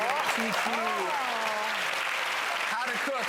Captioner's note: applause and awe